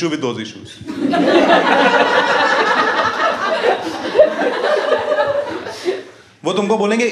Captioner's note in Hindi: हँसना